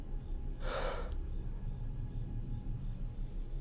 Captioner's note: exhaling